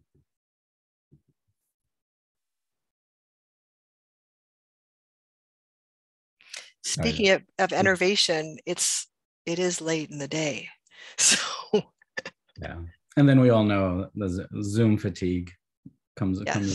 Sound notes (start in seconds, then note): 10.2 laughs